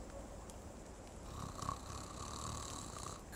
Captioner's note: snorting